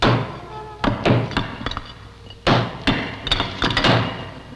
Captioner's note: bricks crumbling